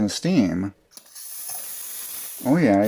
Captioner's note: hissing sound